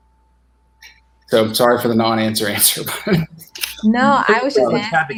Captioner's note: laughs